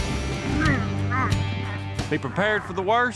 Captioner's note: groaning